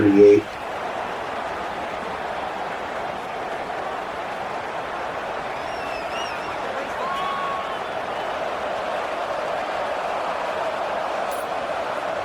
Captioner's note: crowd Noises